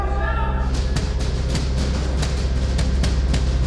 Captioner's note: banging